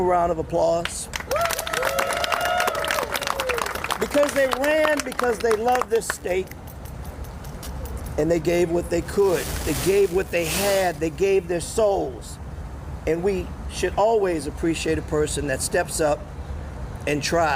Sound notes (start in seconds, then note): 6.7 applause